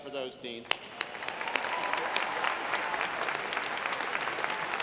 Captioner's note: audience applauds